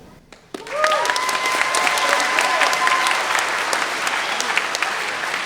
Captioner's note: everyone applauding